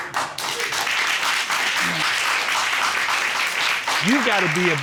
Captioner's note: applause